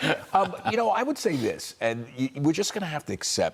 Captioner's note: laughter